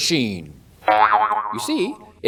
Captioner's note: boing!